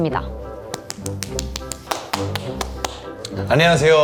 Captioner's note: clapping like a seal